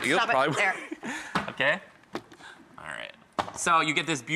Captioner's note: laughs